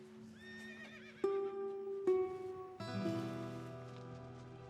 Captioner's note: horse whinnies